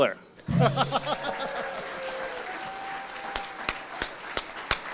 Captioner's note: audience applauding